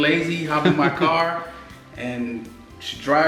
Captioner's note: laughing